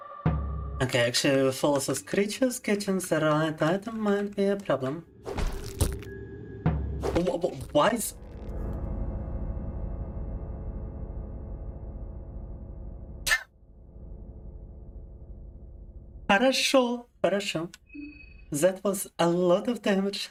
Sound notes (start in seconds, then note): 8.0 speaking in Russian